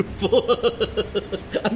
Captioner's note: laughing